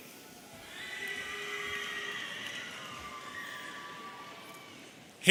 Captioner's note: audience cheering